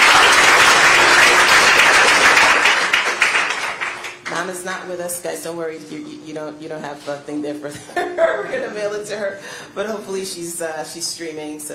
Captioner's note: applause